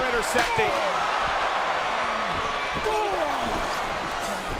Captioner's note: crowd cheering